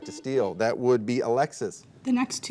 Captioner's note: buzzer dings